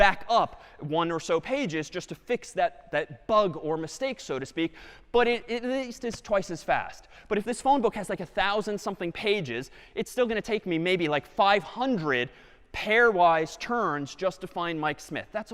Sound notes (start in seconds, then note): none